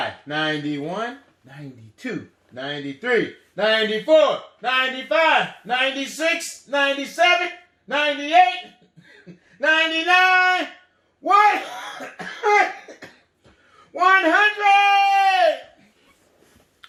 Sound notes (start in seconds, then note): 11.4 coughs